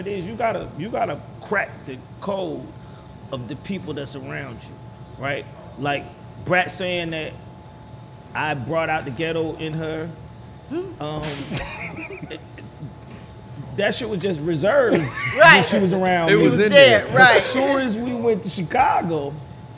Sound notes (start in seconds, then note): 11.4 laughing